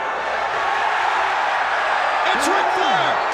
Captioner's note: crowd roaring